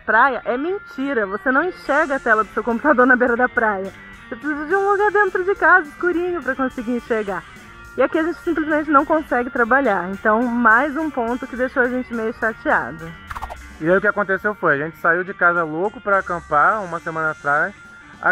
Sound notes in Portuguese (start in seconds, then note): 13.3 som de transição